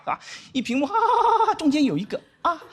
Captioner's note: laughing